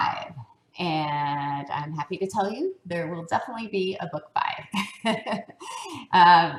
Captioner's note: laugh